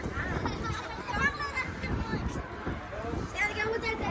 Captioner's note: children talking and laughing